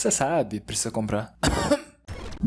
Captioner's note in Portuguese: Cof